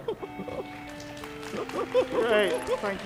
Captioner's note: audience clapping